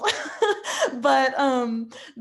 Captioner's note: laughing